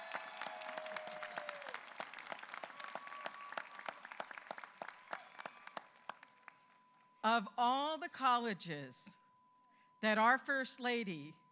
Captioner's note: applause